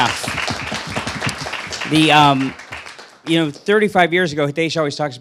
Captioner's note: applause